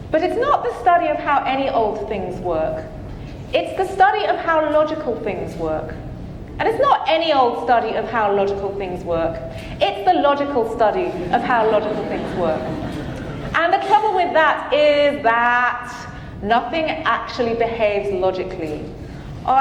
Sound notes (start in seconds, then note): 11.0 audience laughing